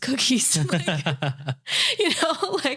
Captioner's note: laughing